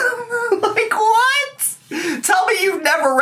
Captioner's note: laughs